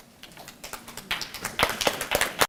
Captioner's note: applause